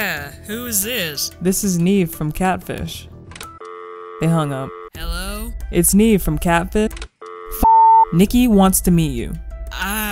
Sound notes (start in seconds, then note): 2.8 busy signal; 5.0 voiceover; 7.3 busy signal